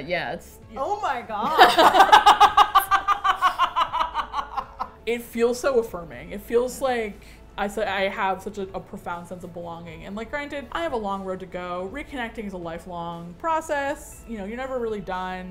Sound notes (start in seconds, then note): 1.4 laugh